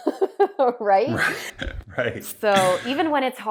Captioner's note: laughing